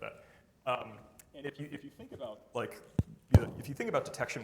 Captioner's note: mic thuds